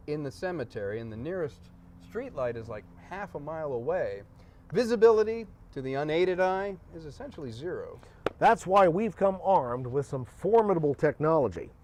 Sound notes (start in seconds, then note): none